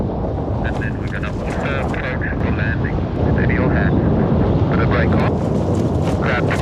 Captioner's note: speaking faintly